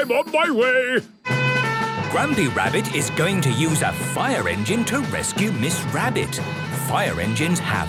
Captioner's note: sirens